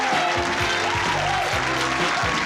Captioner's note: applause